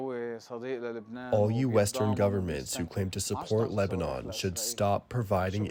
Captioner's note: through translator